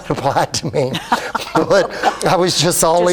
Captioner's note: laughs